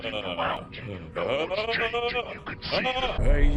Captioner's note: rat screaming